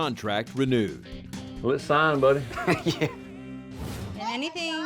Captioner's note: chuckles